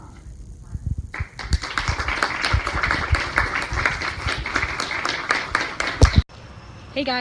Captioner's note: applause